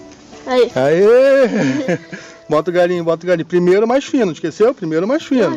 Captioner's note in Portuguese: risadas